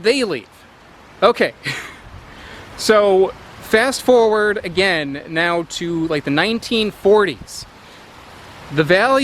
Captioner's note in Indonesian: tertawa